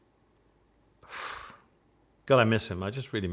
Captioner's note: sighing